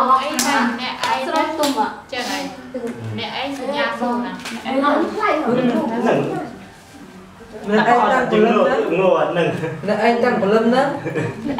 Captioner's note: chattering